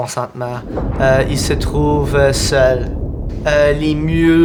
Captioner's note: thunderclap